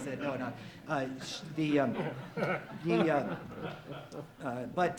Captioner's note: audience laughs